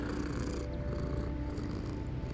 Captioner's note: purs